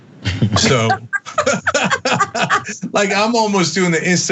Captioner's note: laugh